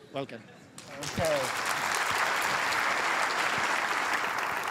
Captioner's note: applause